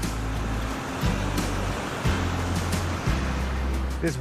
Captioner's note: water roaring